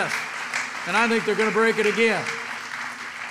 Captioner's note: applause